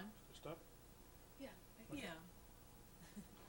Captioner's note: laughter